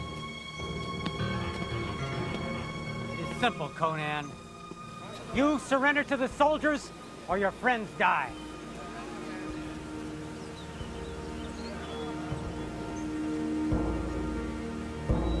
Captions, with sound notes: (footsteps) - It's simple, Conan. You surrender to the soldiers or your friends die.